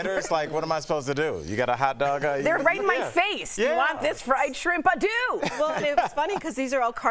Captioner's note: laughter